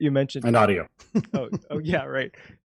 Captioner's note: chuckling